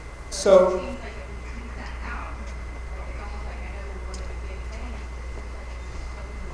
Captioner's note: attendee talking quietly